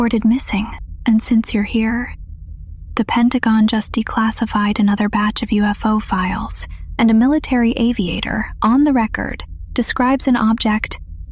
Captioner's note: whispers